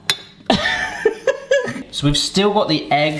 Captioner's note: light chuckles